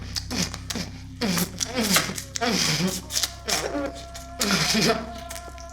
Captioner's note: suckling sounds; giggles